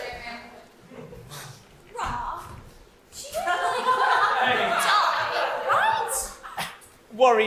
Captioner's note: audience laughter over rest of line